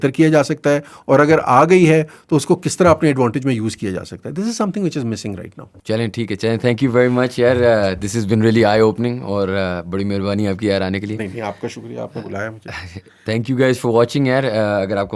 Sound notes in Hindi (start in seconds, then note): none